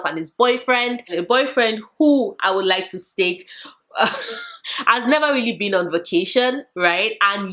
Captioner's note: laughs